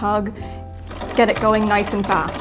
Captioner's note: wheel clatters